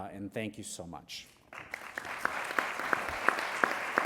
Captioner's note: applause